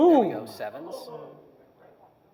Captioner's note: audience noise